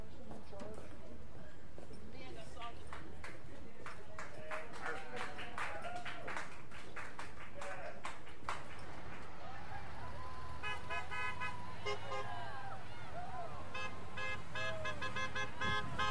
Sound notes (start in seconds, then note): 5.4 applause; 11.1 horns honking